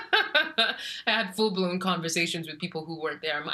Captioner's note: laughs